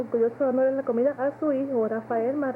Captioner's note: Spanish